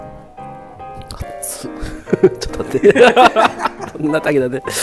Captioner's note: laughs